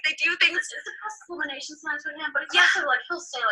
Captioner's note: disembodied Female Voice